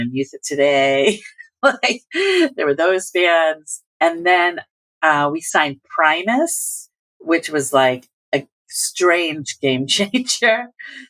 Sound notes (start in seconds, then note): 1.0 laughter; 3.5 laughter